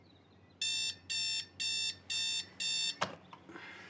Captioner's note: alarm beeping